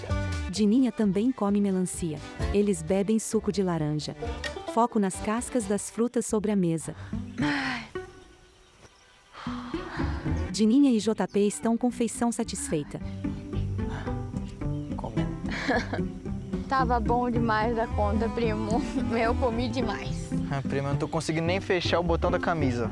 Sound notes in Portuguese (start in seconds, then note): 0.2 Pássaros; 7.0 Suspiros; 9.4 Suspiros